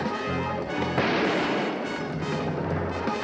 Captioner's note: gun firing